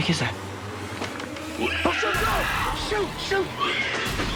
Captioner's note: screeching